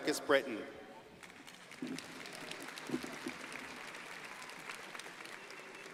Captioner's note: audience applauding